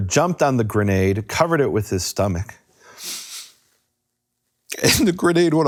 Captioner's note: sobs